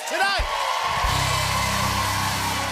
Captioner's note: cheers and applause